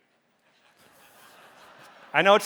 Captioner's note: audience laughing